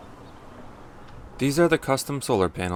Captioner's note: none